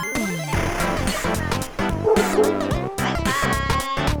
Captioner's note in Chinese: 汪汪